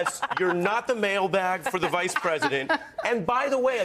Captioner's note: laughs